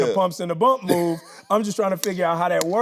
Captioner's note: Tyler laughing